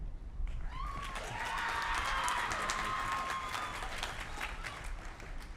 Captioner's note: applause